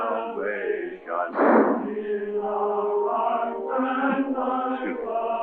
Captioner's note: gunshots